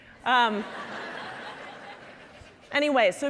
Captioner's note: audience laughing